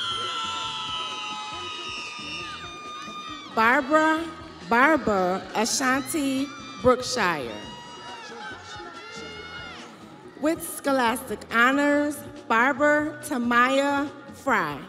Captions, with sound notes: Barber Terrence Hughes. (crowd cheering) Barbara Barber Ashanti Brookshire.